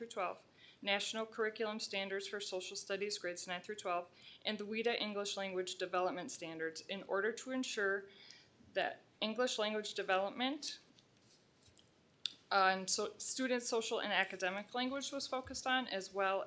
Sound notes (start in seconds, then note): none